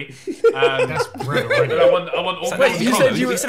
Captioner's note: laughing